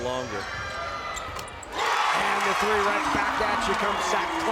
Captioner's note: crowd cheers